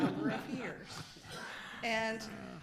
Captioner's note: group laughter